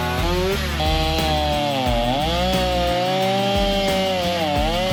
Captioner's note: saw whirring continues